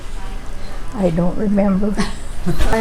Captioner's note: laughing